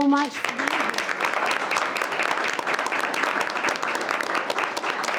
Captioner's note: all applauding